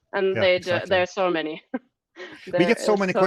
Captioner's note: laughs